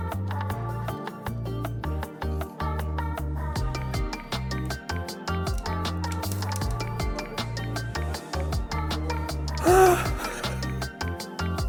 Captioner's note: yells